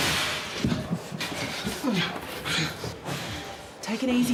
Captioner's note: both grunt and strain